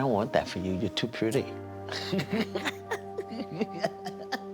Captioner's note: laughing